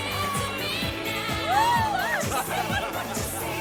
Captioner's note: man laughing